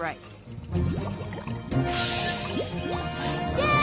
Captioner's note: bubbling sounds